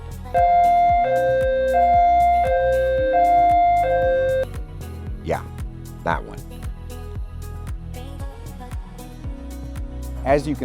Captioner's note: siren sound